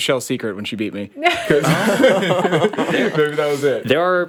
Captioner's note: all laughing